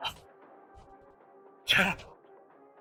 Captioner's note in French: Tousse